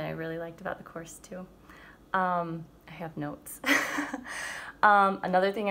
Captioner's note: laughing